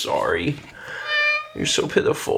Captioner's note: Sagan meowing